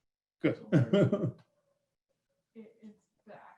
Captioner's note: laughing